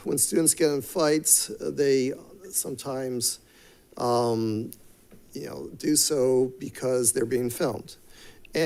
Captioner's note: none